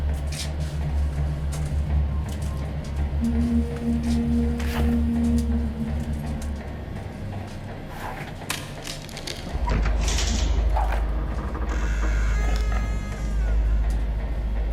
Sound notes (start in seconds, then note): 11.2 door creaks